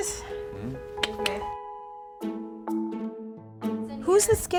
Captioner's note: tongue clicking